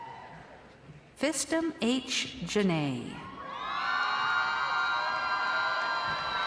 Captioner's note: crowd cheering